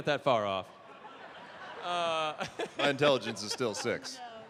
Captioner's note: laughter